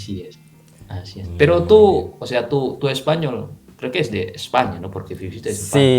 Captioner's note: Spanish